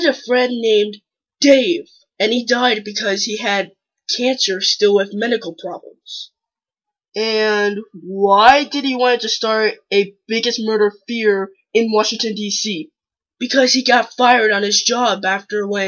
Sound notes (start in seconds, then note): none